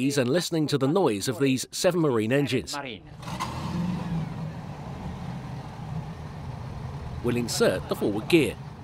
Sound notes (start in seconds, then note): 3.1 engines revving